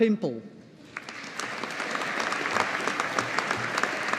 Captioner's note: audience applauding